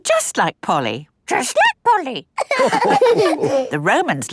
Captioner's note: all laughing